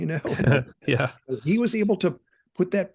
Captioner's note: laughing